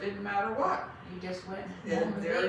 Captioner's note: laughs